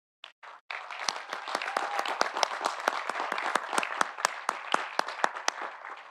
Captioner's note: audience applauding; audience cheering